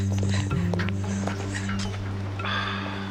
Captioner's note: sobbing